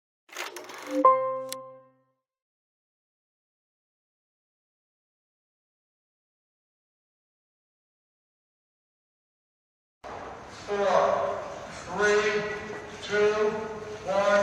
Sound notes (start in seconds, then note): 0.3 film rolling; 0.8 piano key playing